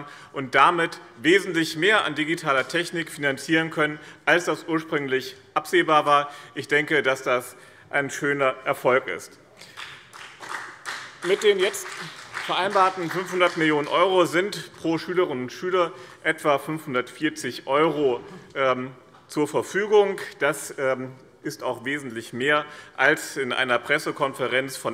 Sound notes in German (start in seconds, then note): 9.6 Beifall BÜNDNIS 90/DIE GRÜNEN